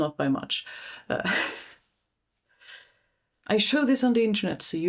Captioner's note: self-conscious huff of laughter